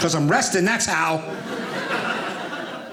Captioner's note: audience laughing